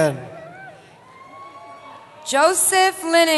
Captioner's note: cheering